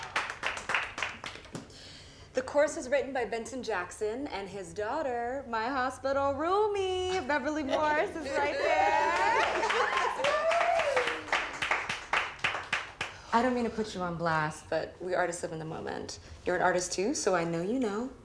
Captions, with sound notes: - The chorus is written by Benton Jackson, and his daughter, my hospital roomie, Beverly Morris is right there. (crowd cheering) (crowd clapping) That's right! I don't mean to put you on blast, but we artists live in the moment. You're an artist too, so I know you know.